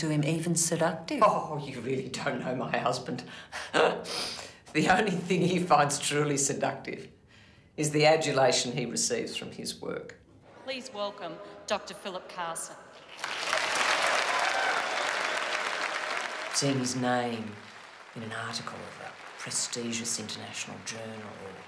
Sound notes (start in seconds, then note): 3.4 laughing; 13.1 applauding